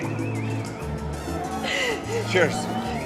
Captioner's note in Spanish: Sollozos